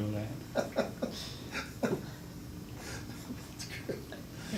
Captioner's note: continues laughing